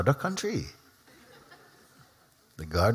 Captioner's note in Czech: Smích